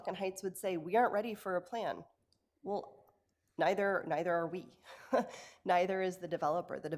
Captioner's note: laughs